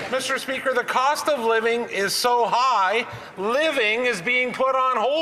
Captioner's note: some Applause